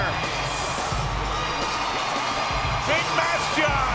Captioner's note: crowd cheering; upbeat music continues